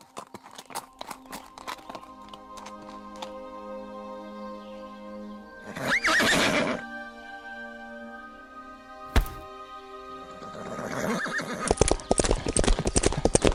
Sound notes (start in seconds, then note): 5.6 Avila whinnies